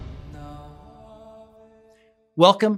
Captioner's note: chanting